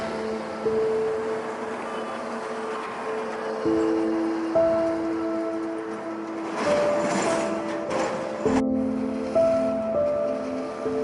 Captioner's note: street sounds